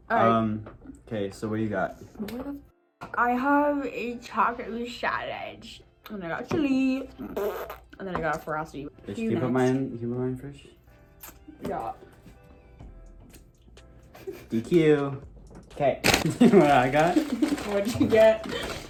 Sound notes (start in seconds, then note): 7.2 fart noise